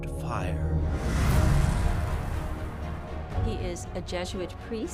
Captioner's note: fire whooshing